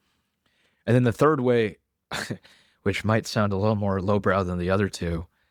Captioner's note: laughs